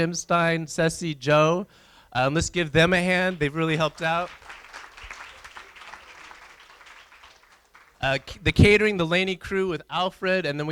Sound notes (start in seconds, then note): 3.2 applause